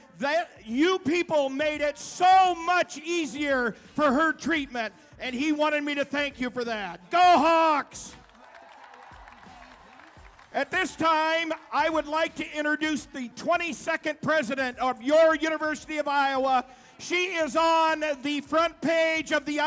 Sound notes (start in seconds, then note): 7.1 crowd cheering